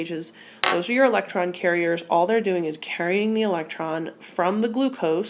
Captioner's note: glass clinking in the background